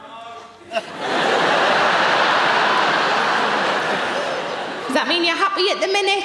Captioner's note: audience laughing